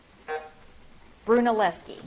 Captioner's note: buzzer drones